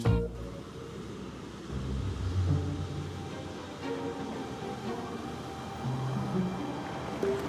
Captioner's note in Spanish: Ruido del vehículo